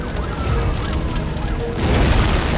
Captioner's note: sirens wailing